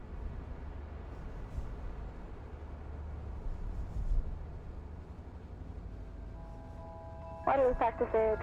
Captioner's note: wind blows quietly